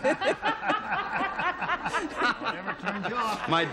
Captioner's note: laughing